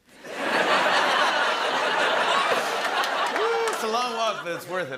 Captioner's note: laughter